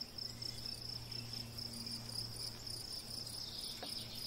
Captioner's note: birds chirping